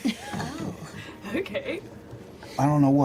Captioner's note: laughs